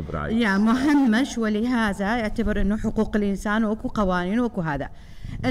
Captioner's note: speaking foreign language